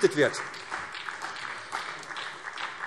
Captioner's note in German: Beifall SPD